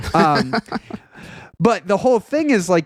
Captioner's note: laughing